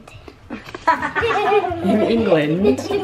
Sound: laughing

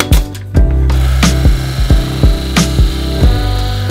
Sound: nail gun pounding; saw grinding

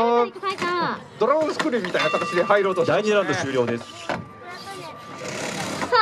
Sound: bell rings

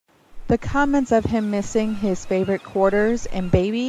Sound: seagulls and waves in background

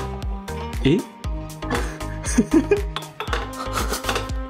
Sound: chuckle

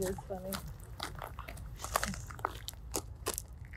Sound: gravel crunching

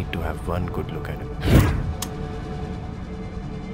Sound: gun cocks

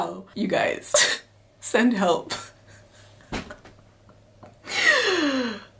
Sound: laughing

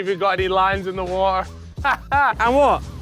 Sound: laughs

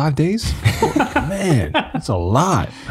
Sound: group laughing

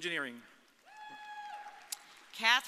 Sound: audience cheering

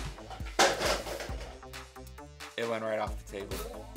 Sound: rubber band car racer smacks on the floor

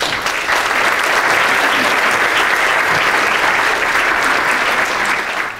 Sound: audience clapping

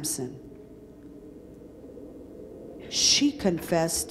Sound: wind howling

